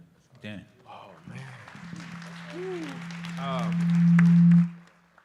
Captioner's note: applause